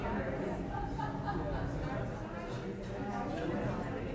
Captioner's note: room chatter